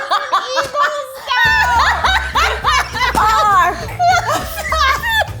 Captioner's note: all laughing